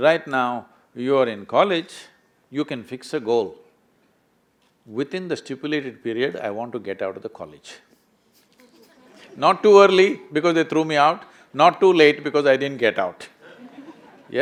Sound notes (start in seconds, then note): 8.6 laughter